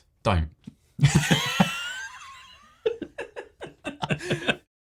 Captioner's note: both laugh